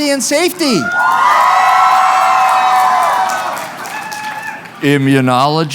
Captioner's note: cheering